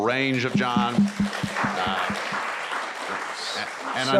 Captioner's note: applause